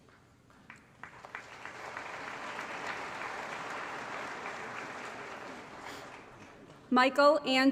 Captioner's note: applause